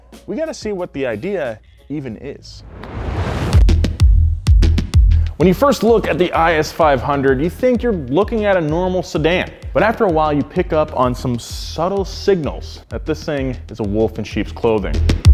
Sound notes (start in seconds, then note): 2.5 air whooshing